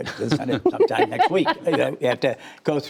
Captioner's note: laughter